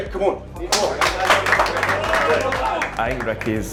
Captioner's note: team clapping